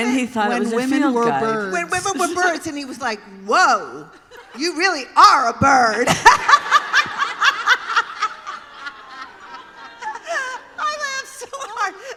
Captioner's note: laughter